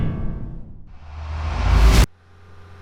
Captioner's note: swoosh; riser